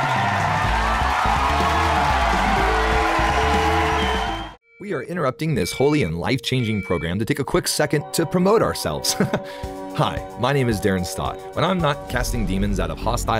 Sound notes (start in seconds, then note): 5.3 beeping; 9.5 laughs